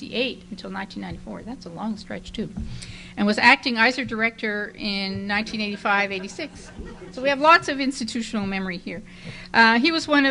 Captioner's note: laughter